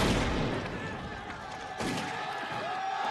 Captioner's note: soldiers shouting